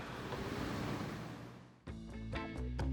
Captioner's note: waves clashing; reggae music